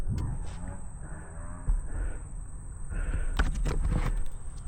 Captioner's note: sniffing